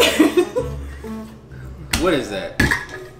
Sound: laughs

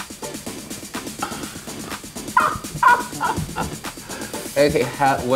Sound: Laverne laughs

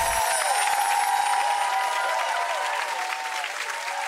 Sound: audience cheering

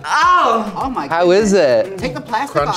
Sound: moaning

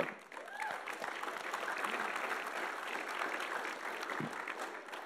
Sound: audience applauding

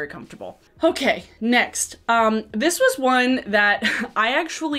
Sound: chuckles

